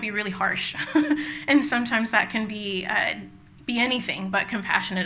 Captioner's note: laughs